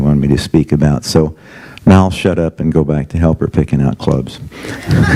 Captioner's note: audience laughs